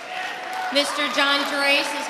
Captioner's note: audience applauding and cheering